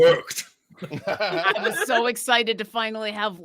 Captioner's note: laughing